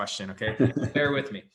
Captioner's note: laughs